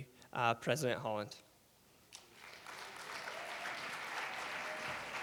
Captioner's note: audience clapping